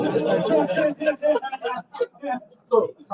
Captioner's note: laughter